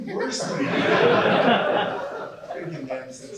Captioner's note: laughter